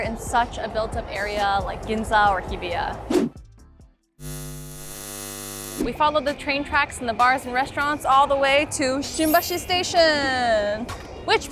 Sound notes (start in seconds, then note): 4.2 electricity buzzing